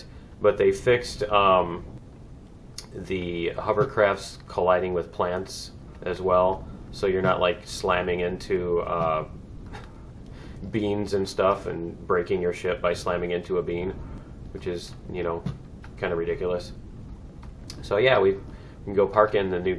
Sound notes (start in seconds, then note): 8.9 laughs